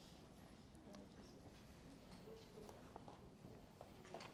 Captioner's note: softly chattering